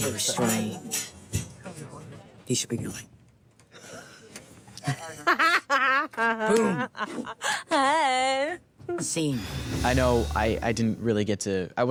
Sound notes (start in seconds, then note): 4.5 normal voice; 5.0 laughs